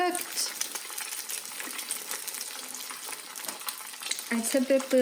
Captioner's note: sizzling